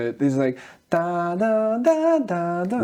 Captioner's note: humming